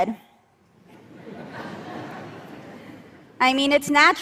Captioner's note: laughter